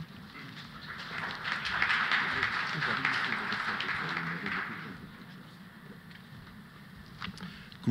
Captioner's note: applause